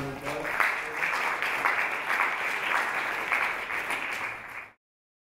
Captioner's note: audience clapping